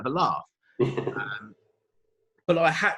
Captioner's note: laughs